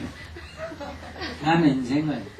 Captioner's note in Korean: 청중 웃음